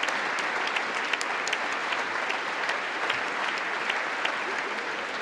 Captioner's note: congress applauding